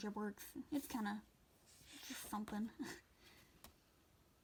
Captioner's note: laughs